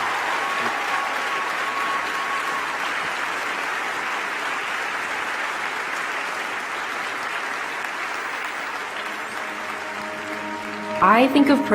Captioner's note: applause